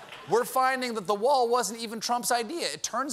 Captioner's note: laughter